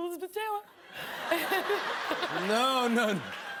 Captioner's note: laughter